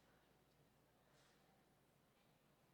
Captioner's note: none